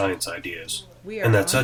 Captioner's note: chatter